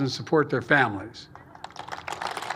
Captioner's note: applause